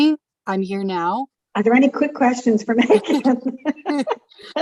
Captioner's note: laughs